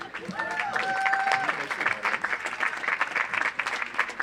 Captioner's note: audience applauds